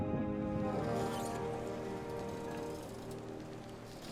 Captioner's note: birds chirping, boat brushing against dock